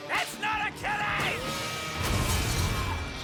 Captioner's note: smash; crane whirs